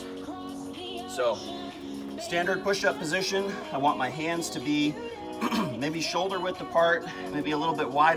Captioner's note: clears throat